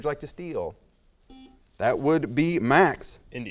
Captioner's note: buzzer noise